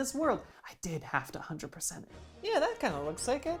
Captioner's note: whispered